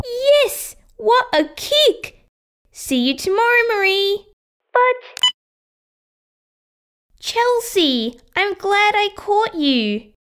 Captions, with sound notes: Yes! What a kick! See you tomorrow Marie But... (Click!) Chelsea! I'm glad I caught you